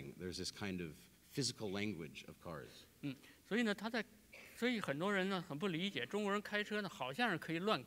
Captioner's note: speaking in Chinese